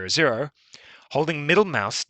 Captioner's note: breathes